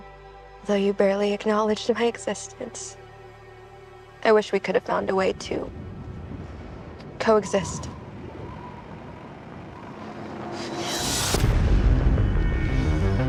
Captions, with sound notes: Though you barely acknowledged my existence, I wish we would have found a way to... coexist. (WIND HOWLS)